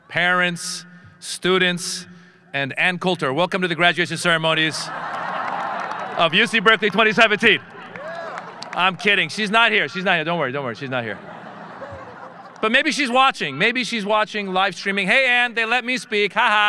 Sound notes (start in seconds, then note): 7.9 audience applauding and cheering; 10.6 audience laughing